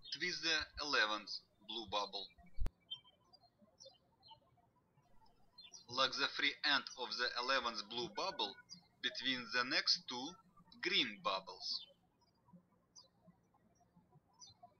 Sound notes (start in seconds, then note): 2.9 birds chirping; 12.4 birds chirping